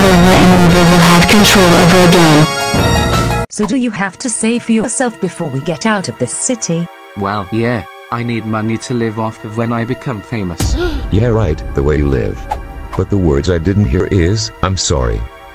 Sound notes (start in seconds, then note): 10.7 brenda gasps